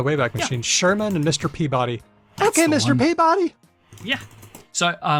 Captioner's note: sherman voice